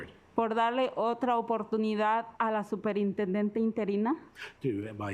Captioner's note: speaking Spanish